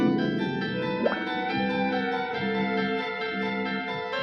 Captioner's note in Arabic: صوت الماء يغلي